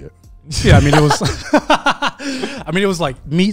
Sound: everyone laughs

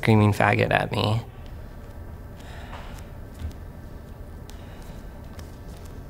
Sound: soft footsteps

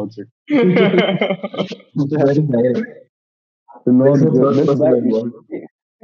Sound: laughter

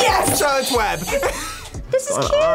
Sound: buzzer rings; laughs

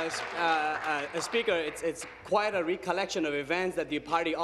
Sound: applause

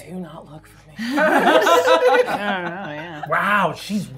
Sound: gamers laughing

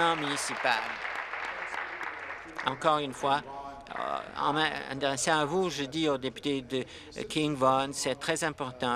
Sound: applause

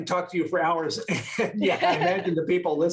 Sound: laughter

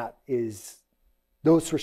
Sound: none

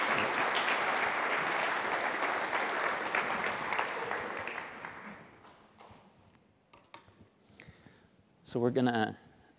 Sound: applause

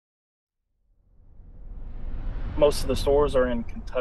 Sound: air whooshing

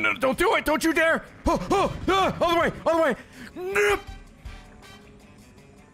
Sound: stress noises

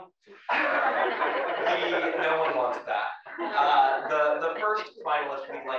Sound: laugh

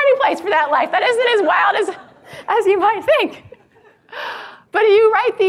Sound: laughs

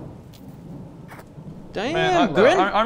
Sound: kiss

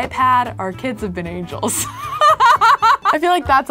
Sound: laughs

